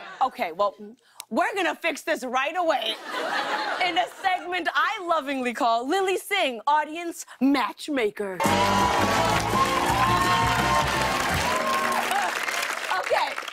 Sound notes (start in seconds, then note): 8.4 cheers and applause